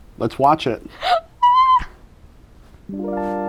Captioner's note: excitement sounds